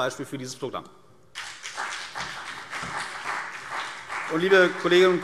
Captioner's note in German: Beifall CDU und BÜNDNIS 90/DIE GRÜNEN